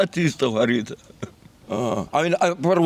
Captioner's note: laughs